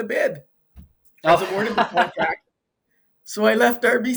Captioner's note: laughing